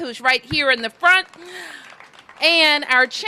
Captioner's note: applause